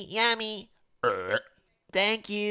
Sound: burp

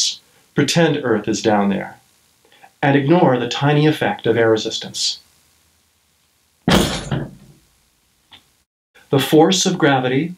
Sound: drop ... thud

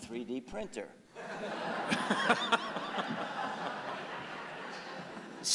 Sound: audience laughing

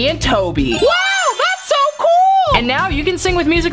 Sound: chimes

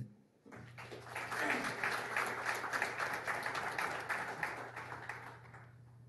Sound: applause

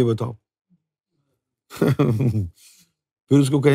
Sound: chuckles

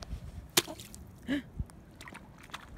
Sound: gasp

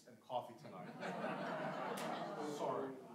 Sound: audience laughing

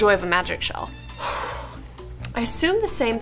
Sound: exhales deeply

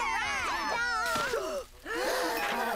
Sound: all cheering; gasping

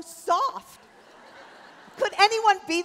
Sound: laughter

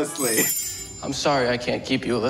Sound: soft chiming

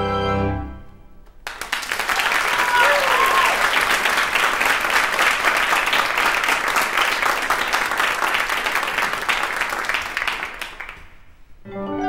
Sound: applause

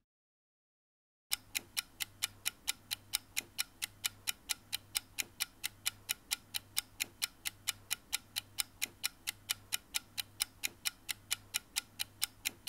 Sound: clock ticking

